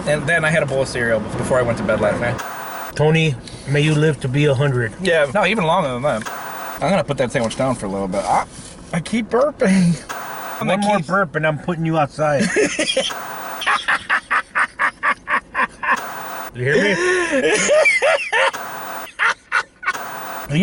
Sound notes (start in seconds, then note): 13.4 laughing